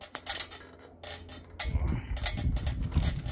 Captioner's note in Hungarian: nyögés